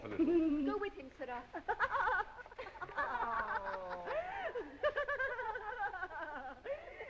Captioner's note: girls giggling